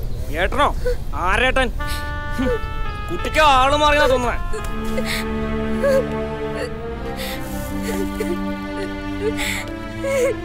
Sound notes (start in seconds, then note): 7.1 cries in distress